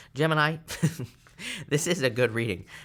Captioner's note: chuckles